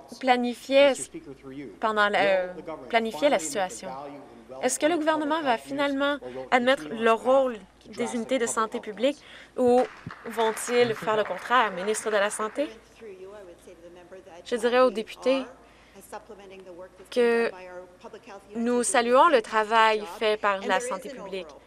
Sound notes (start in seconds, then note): 13.6 some Applause